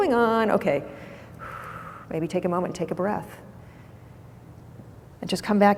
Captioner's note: exhales